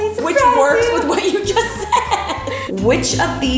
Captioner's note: laughs